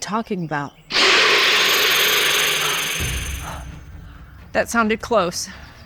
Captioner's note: snake screeches